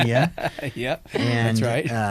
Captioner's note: laughing